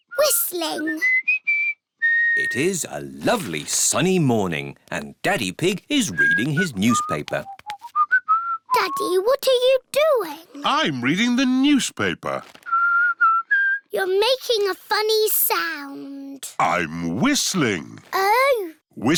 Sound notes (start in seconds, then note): 7.6 whistling; 12.6 whistles